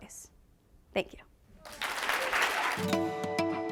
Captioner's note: applause